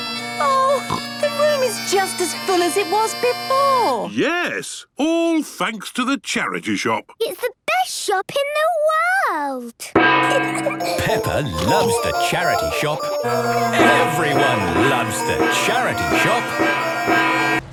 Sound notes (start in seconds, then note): 0.0 dissonant music; 9.8 kids giggling; 16.2 dissonant music